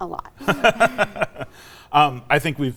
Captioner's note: laughs